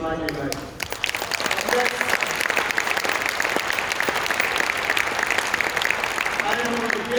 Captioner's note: applause